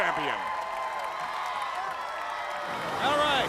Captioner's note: crowd cheering